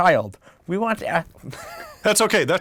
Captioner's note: laugh